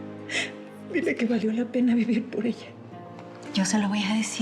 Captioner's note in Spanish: sollozos